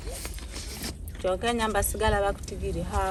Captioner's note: camera adjusting sound